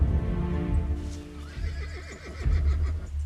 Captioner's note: horse neighing